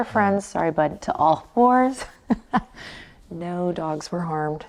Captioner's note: laughs